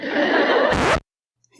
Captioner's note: inappropriately timed laugh track; record scratch